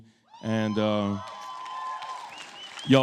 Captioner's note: applause